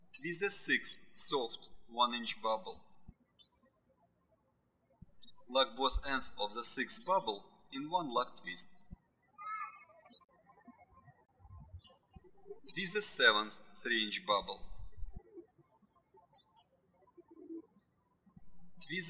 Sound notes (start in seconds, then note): 11.0 birds chirping; 15.8 birds chirping